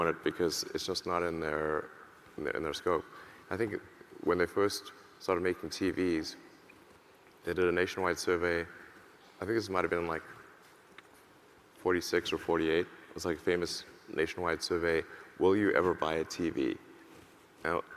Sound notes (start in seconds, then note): none